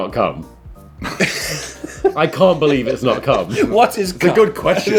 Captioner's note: laughing